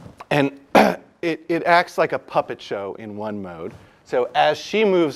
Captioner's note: cough